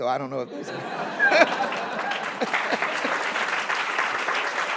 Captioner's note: audience laughing